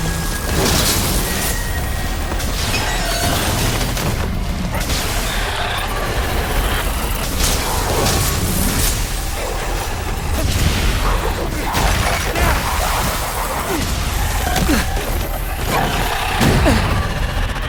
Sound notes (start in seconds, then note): 0.7 tense music; 5.0 enemies grunting